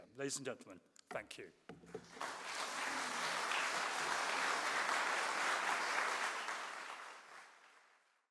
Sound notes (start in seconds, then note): 2.0 audience applauding